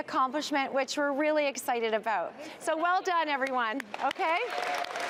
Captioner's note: applause